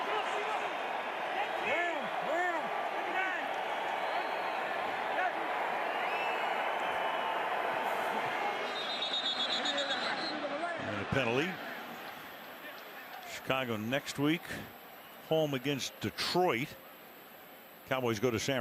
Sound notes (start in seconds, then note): 8.4 whistling